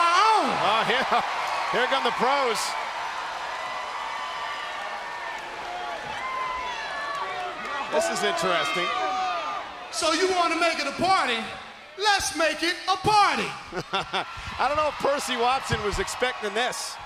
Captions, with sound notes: Oh yeah, here come the Pros. (crowd cheering) (crowd cheering) This is interesting. So you wanna make it a party? Let's make it a party. (laughs) I don't know if Percy Watson was expecting this.